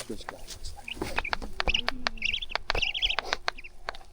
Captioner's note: continued owlet cries and bill-clacks